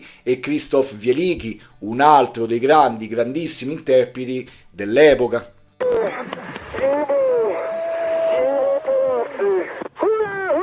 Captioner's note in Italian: Applauso